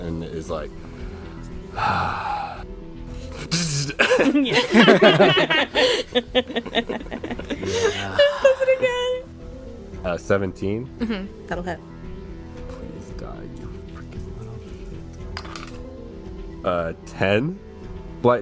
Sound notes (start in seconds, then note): 2.5 imitates electrical buzzing; 6.7 laughter